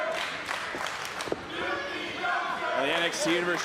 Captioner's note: crowd chants